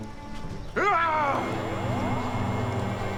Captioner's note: grunting